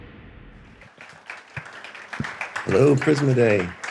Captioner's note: audience applauding